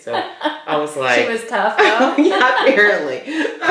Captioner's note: laughter